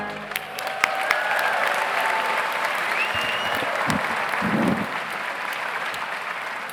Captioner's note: audience applauds; audience cheers